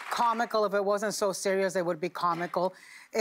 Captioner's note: applause